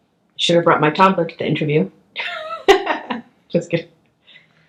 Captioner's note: laughs